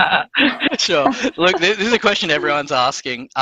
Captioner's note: laugh